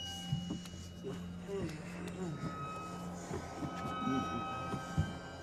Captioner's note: Donovan moaning